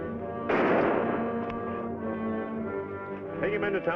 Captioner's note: gunshot bangs